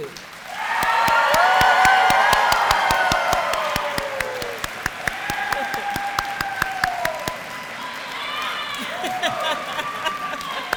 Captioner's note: applause